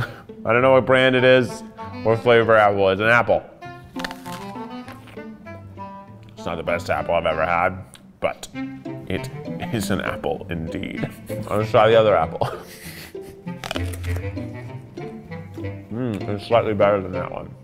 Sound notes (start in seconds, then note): 3.9 crunching; 11.9 crunching